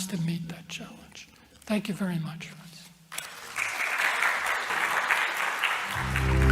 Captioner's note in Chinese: 掌聲